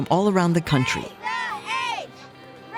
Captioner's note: chanting